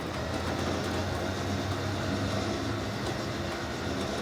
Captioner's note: crane whirring